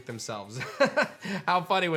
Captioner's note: chuckles